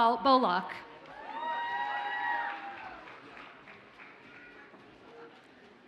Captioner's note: audience cheers and applauds